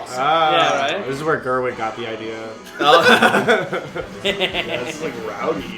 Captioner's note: laughter